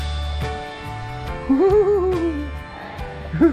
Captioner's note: laugh